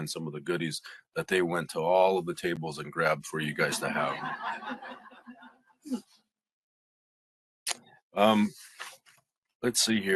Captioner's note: laughing